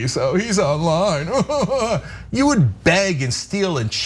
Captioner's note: laugh